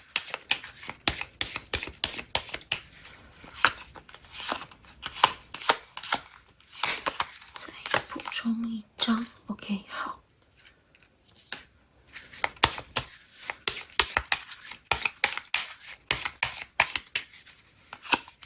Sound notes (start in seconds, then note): 12.1 drawing cards